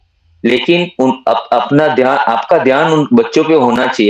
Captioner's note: laughter